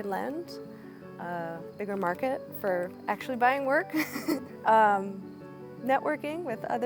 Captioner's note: chuckles